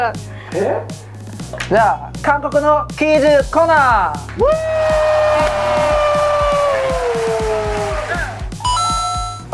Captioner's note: applause